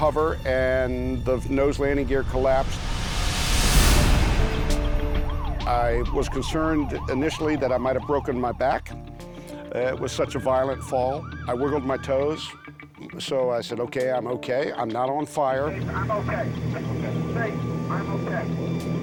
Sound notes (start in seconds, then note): 4.1 sirens